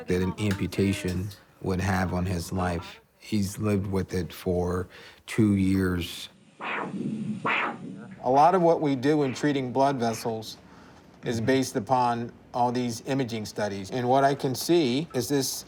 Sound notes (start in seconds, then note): 6.6 machine crackles